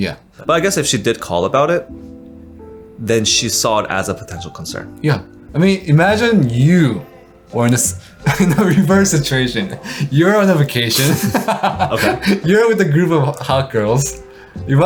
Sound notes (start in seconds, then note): 10.8 laughs